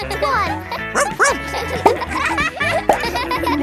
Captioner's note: barks